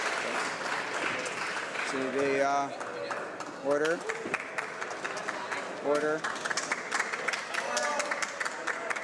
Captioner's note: applause